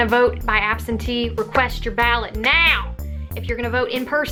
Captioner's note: clap